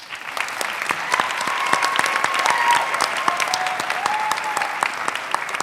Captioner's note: audience clapping and cheering